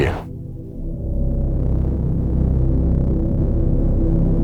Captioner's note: space vibrates